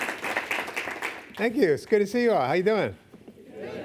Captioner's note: clapping